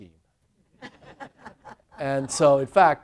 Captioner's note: laughter